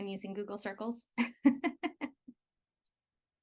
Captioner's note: laughs